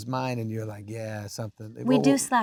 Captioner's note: Adam laughs